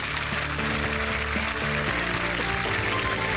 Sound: applause

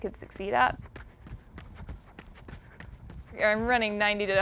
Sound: foot steps

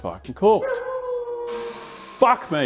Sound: oven timer buzzes

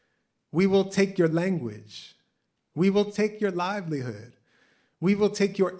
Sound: none

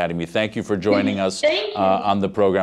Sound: laughs

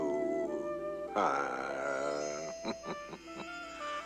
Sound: chuckling

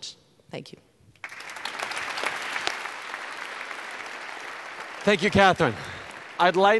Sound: applause

